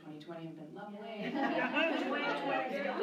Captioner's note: laughter